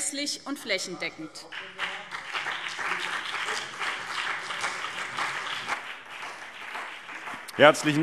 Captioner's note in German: Beifall BÜNDNIS 90/DIE GRÜNEN und CDU